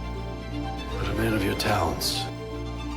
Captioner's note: voiceover